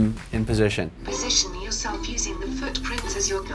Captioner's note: automated Voice